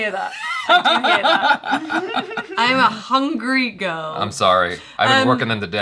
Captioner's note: silent laughter to a short loud one